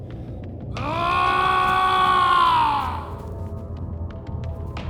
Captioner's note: yelling